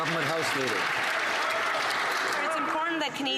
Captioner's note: some Applause